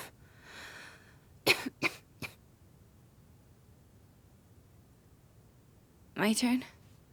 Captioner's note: coughing fit